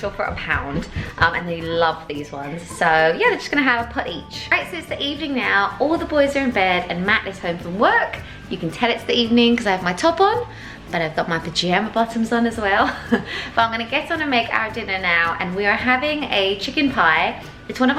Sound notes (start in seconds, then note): 13.1 laughs